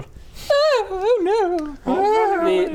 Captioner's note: upper class wailing